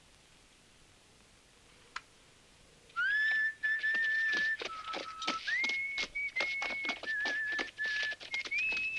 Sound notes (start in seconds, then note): 2.9 Lucky whistling